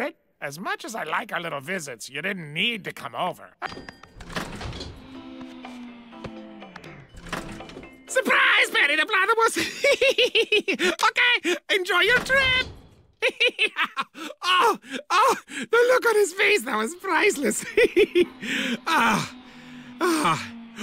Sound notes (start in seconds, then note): 13.2 giggling